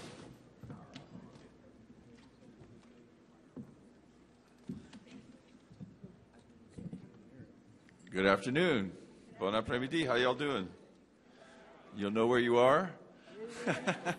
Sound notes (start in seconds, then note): 9.6 speaking in Cajun